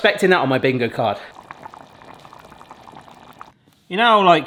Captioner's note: sauce bubbling